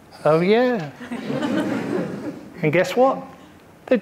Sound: audience laughing

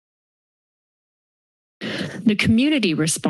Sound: silence

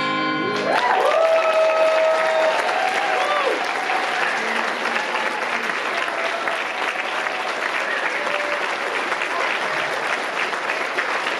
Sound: applause

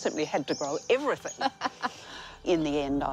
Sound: laughs

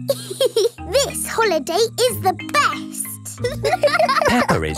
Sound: giggles; laughing

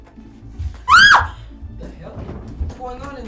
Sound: screams

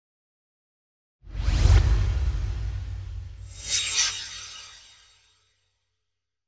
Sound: swoosh

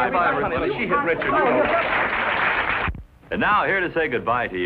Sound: all clamoring

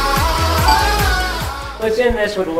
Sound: chime dings

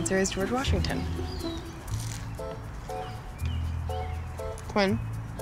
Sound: crunches sandwich

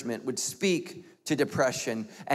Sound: none

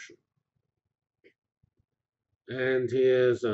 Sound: pause

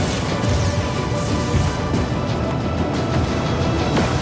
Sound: futuristic weapons buzzing; booming

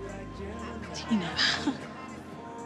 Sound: sighs; chuckles lightly

